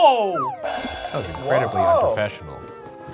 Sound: items banging in background

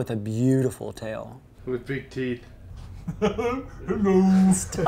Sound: goofy laugh

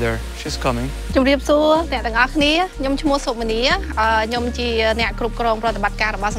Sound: speaking in Khmer language

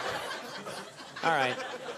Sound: laughter

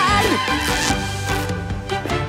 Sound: squeaking

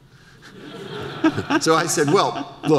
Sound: audience laughter

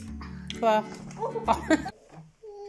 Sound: kissing sound; laughing

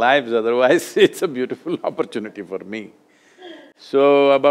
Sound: laughs

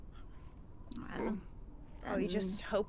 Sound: players groaning

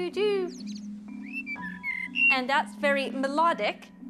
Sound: bird singing

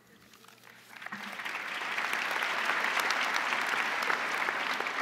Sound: crowd applauding

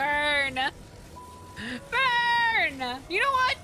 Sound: inhale

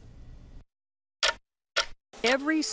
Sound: clock ticking

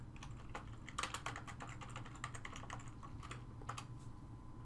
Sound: typing

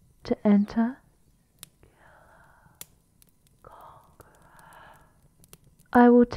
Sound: you hear the familiar whispers outside the room

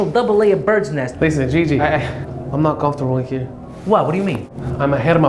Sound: stammers

